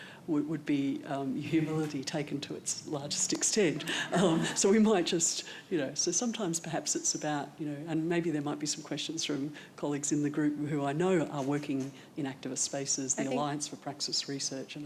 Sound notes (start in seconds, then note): 3.7 audience chuckles